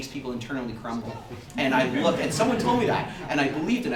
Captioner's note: audience laughter